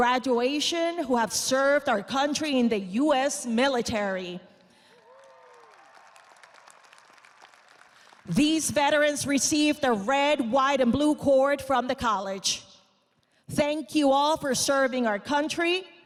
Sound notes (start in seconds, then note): 8.2 audience applauding